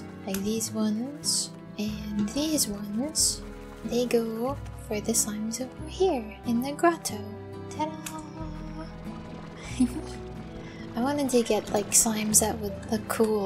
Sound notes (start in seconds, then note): 9.1 giggle